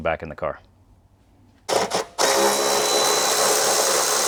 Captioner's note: drilling